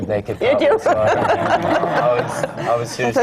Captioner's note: laughter